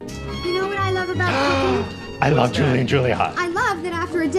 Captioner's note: gasps